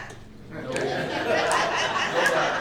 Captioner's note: crowd laughter